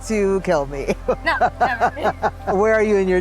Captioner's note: laughing